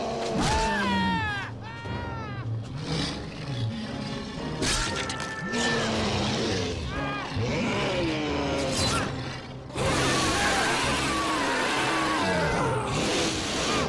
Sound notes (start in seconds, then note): 0.6 Ryder screaming; 4.7 Ryder yelling; 4.7 blood squelching; 7.4 sphinx growling; 9.6 sphinx roaring